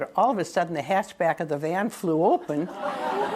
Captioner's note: laughter